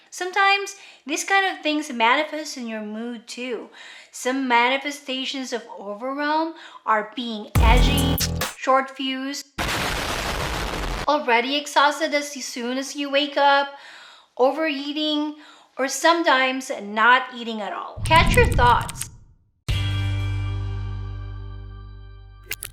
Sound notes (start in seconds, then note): 9.6 bomb explodes; 19.8 soft music